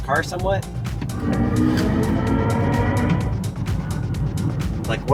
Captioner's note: car revving